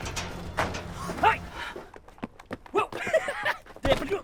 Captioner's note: chuckles